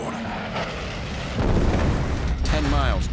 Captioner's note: explosion